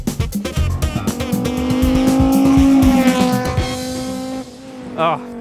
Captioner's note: engine roaring